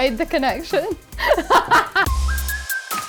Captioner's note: laughing; techno music